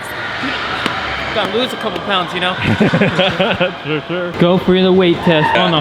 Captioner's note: laughs